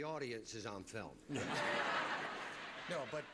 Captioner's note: audience laughter